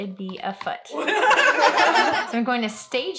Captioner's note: laughter